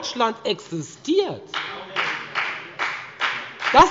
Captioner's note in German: Beifall bei der FDP